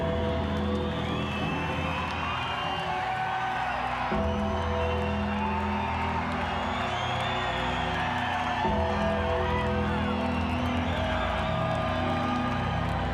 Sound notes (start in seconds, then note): 3.8 crowd cheering continues; 4.2 sinister music continues